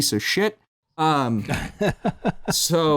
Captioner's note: laughs